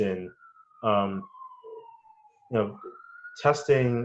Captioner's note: siren wails